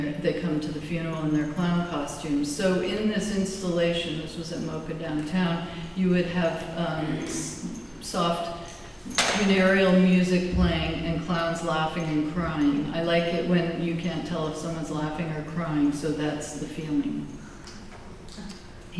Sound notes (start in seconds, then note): none